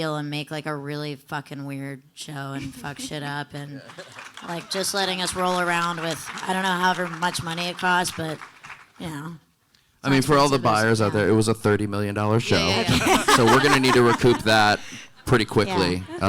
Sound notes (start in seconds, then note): 3.8 audience applauding; 12.5 panelists laughing